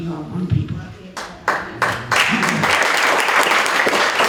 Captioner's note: applause